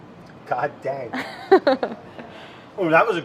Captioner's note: laughs